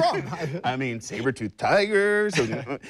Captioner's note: laughter